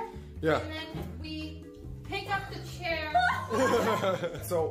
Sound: Valkyrae and man laugh

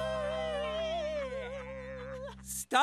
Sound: laughing

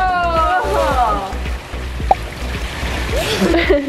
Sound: water splashes; laughing

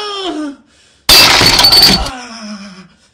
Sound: glass breaking

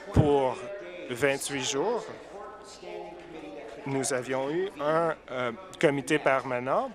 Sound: applause

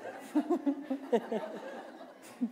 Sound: laughter

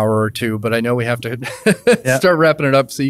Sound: laughs

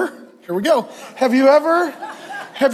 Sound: congregation laughs

